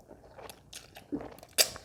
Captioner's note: slurp